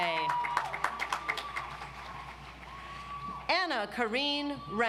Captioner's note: audience applauds